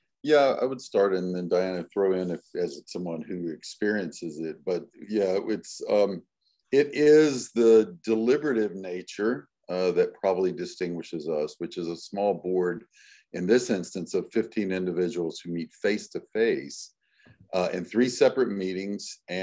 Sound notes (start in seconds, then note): none